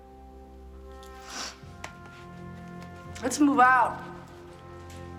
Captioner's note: sniffles